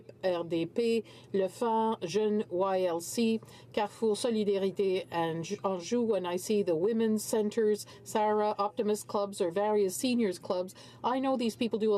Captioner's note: speaking French